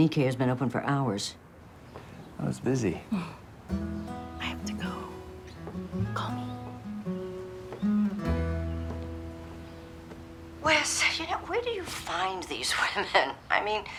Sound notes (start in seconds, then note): 4.3 whispers